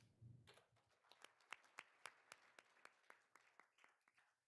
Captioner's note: all applauding